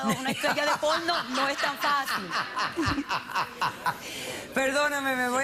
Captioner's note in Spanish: risas